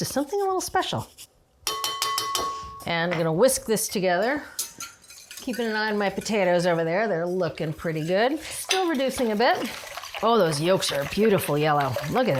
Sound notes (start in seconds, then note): 1.6 glass clanging; 4.6 whisk clanging